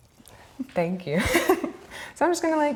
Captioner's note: laughs